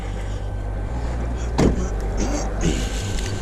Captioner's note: car door slams